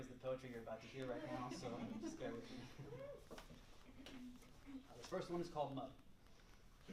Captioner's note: chuckles; laughter